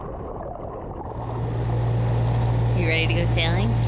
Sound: motor whirring

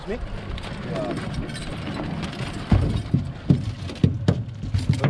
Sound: clanking; fish thrashing

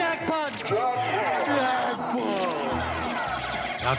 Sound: mocking

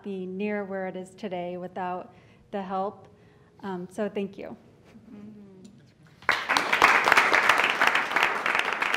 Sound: applause

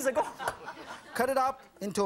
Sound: audience laughing

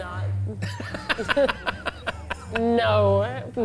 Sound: laughs

